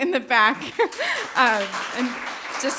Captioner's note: everyone applauding